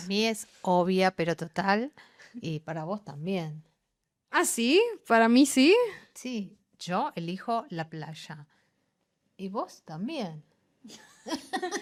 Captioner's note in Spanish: risas